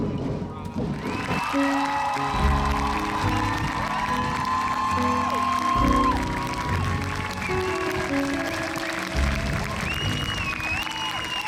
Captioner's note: crowd cheering